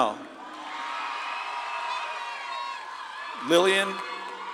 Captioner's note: audience claps and cheers